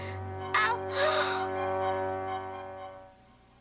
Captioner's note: gasps